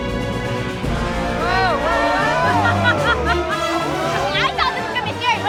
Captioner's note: dramatic music; family gasping